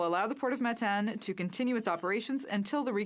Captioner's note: speaking French